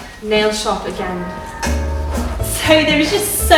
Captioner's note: bells tolling